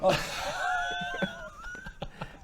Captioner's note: very mature giggles